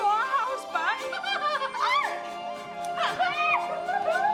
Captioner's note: laughing